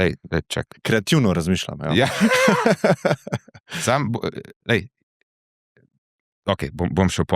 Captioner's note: laughs